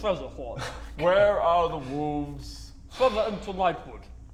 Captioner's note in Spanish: Suspiro